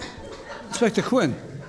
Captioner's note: laughing